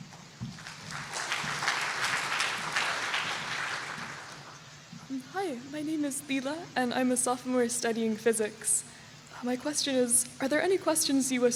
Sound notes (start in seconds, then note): 0.4 applause